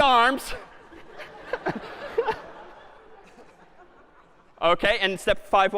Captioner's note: laughter